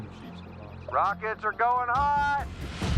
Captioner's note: over walkie